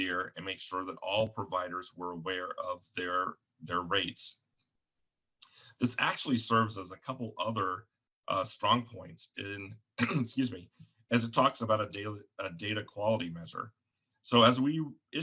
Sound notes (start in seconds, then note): 9.9 coughs